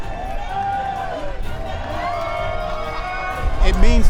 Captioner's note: crowd cheering